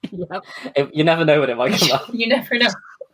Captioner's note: laughing